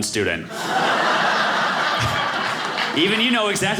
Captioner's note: audience laughing